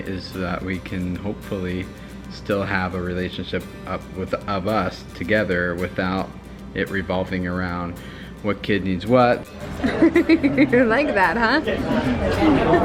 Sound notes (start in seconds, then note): 9.6 laughing